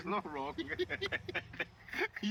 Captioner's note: laughs